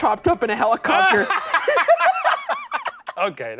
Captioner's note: laughing